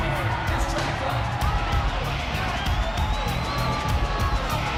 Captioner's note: audience cheering